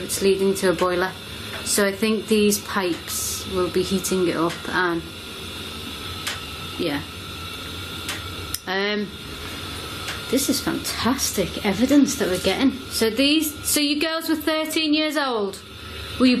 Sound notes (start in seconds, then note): 7.7 ticking sounds